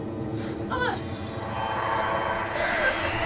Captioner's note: grunting